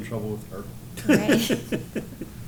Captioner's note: laughter